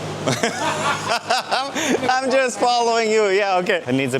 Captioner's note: laughing